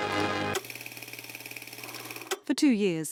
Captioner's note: film projector rattling